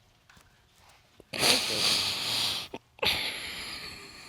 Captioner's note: crying